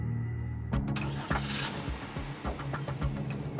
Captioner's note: car engine starts